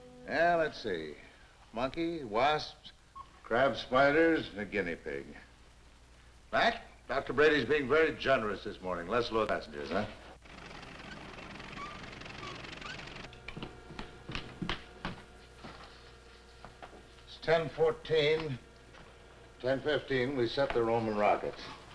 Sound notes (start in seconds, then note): 10.4 machinery rattling; 13.2 footsteps pattering